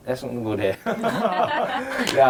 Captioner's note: laughs